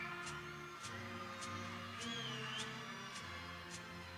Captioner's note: people cheering